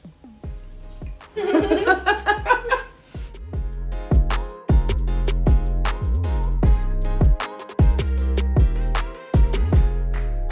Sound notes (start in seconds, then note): 1.3 both chuckling; 3.7 casual music